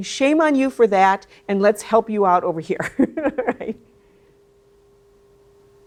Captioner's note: laughs